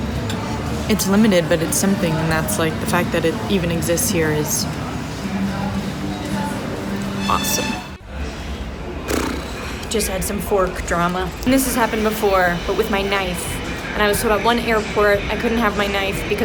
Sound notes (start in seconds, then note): 9.0 blows raspberry